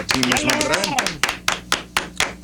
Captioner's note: clapping